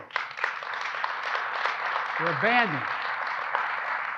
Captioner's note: applause